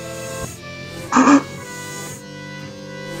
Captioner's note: laughs